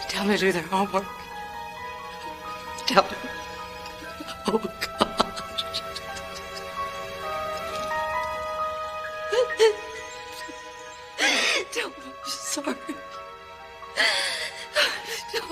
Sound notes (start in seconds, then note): 9.1 Alice sobbing